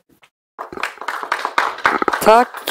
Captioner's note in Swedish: Applåder